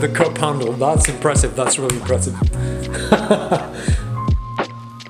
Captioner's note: laughs